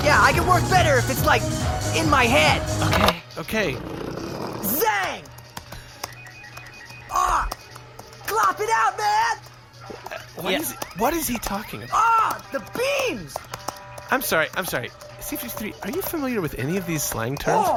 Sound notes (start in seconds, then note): 4.8 Clacking of Flix’s keyboard; 8.2 A series of beeps; 8.2 clacking of keyboard continues